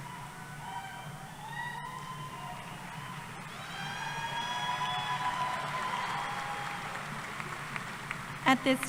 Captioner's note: cheering